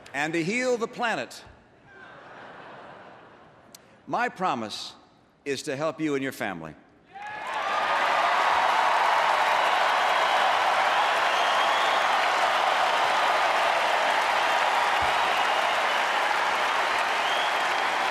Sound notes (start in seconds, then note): 1.8 laughter; 12.3 applause